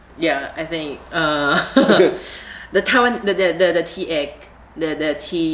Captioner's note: laughs